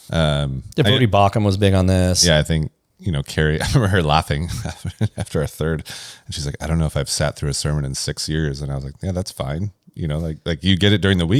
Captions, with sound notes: -Um, I think- -Debrie Baucom was big on this. Yeah, I think, you know, Carrie, I remember her laughing [laughs] after a third, and she's like, "I don't know if I've sat through a sermon in six years." And I was like, "Yeah, that's fine." You know, like, like, you get it during the